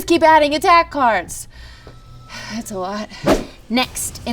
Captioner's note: sighs